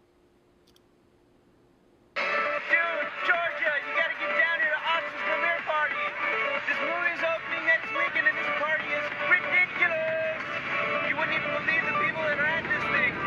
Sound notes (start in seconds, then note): 2.8 james yelling